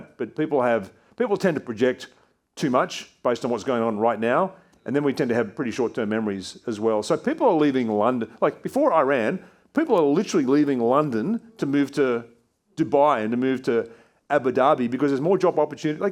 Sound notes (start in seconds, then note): none